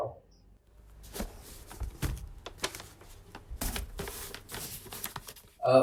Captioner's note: paper rustling